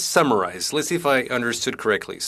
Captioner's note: speaking French